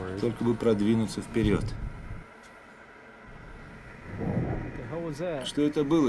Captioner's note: thud